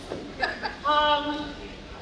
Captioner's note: audience laughing